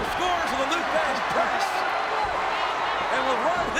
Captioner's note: audience cheers